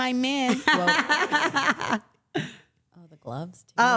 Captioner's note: laughing